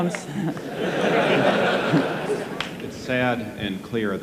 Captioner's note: audience laughing